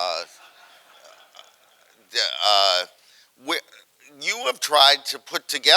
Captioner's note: audience laughing